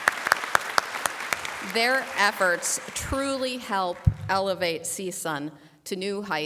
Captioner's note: applause